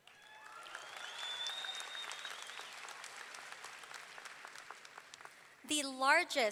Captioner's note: audience cheering; audience clapping